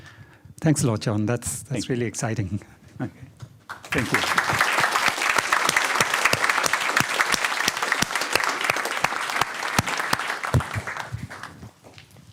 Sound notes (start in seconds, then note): 3.6 applause